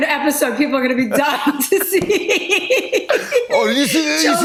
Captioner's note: laughs